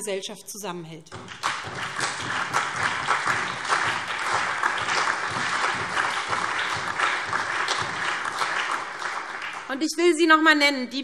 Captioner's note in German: Allgemeiner Beifall